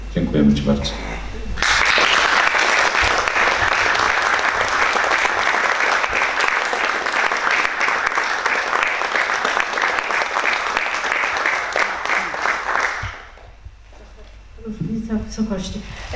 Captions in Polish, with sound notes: dziękujemy ci bardzo. [oklaski]